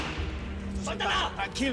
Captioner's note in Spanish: Disparo